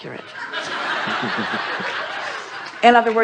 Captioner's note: audience laughs